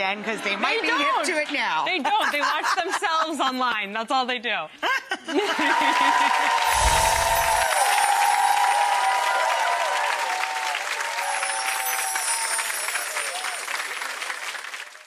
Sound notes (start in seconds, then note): 5.7 applause; 6.6 chimes